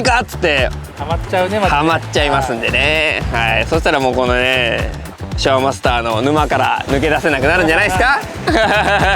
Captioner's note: laughs